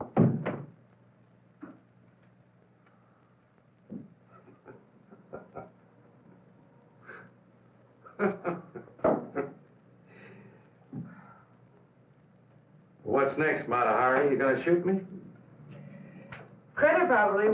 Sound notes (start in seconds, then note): 4.2 chuckling